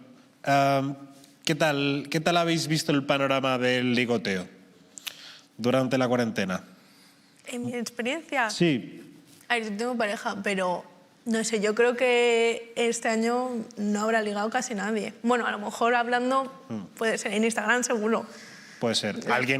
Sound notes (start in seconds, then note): none